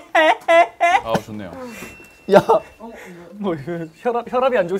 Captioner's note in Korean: 콜록콜록; 삐이- 삐비비비 삑! 삐삐삐삐삒!!